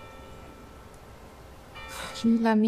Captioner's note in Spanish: Campanadas